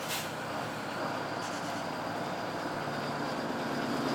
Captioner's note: coach driving off